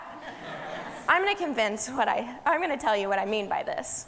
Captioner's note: laughter